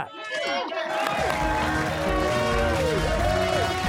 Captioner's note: cheers and applause